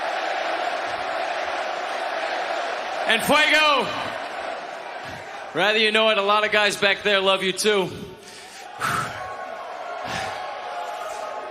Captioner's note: crowd cheering; crowd chanting